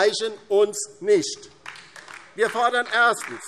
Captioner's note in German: Beifall DIE LINKE